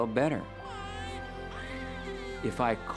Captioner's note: baby Crying